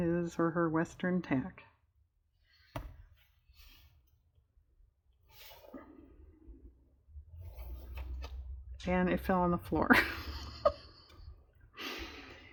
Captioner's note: laughs